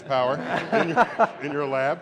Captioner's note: laughter